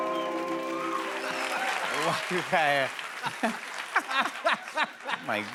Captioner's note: laughter